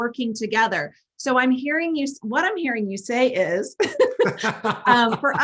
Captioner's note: laugh